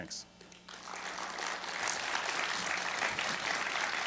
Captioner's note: applause